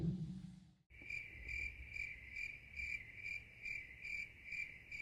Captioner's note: crickets chirp